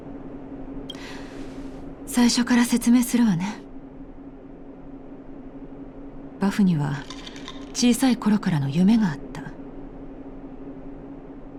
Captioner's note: sigh